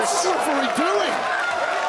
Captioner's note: crowd cheers